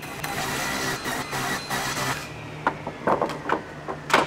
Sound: saw buzzing

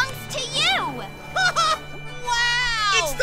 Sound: giggles

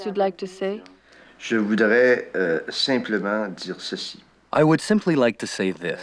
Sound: speaking in foreign language

